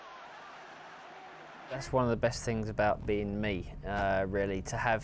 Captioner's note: cheering